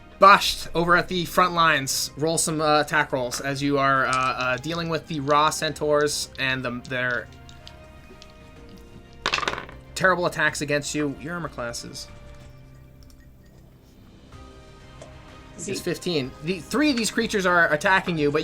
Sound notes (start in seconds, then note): 9.2 dice rolling